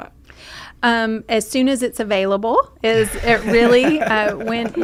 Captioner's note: everyone laughing